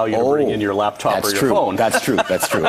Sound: laughs

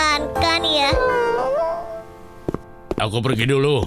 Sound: whimpering

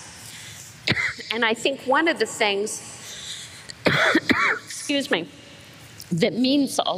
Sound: coughs

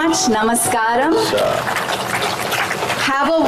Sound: applause

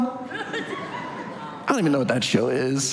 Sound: audience laughs

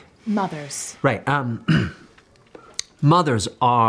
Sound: clears throat

